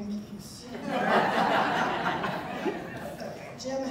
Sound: audience laughter

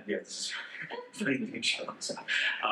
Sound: laughing

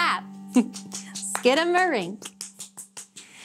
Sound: clapping

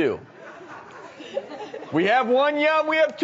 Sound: crowd laughs

